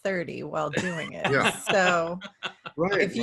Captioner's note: laughs